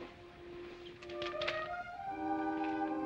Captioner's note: paper rustling